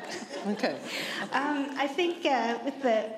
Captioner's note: laughter